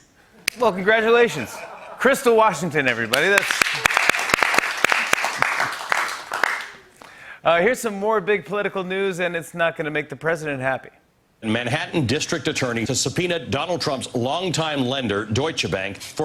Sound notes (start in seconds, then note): 0.4 clap; 1.3 laughter; 2.9 applause